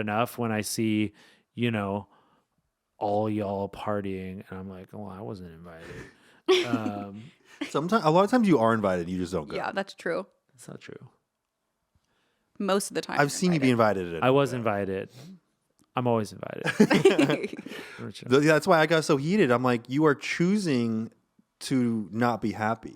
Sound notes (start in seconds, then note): 6.5 laughing; 16.6 laughing